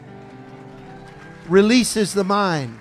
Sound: congregation cheering

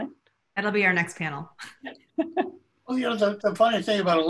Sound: laugh

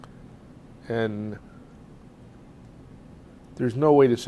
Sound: pauses for 3 seconds

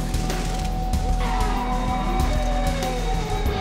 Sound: tires screeching; upbeat rock music

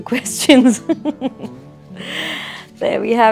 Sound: laughs

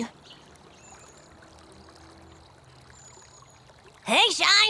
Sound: birds chirping; water trickling

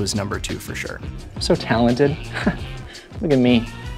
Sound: laughs

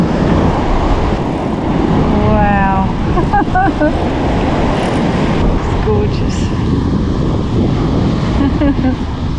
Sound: laughs

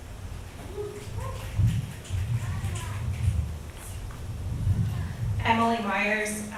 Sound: select audience members cheer

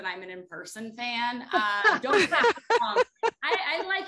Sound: laughter

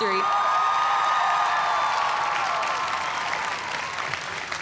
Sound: cheers and applause

